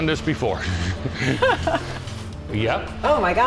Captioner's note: laughs